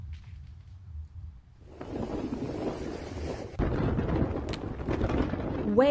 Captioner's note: wind gusting